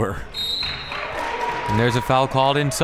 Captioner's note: clapping